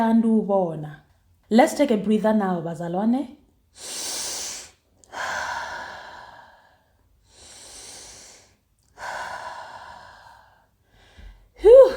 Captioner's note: inhales. Exhales